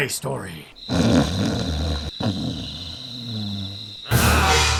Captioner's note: phaeacian snoring; cyclops growling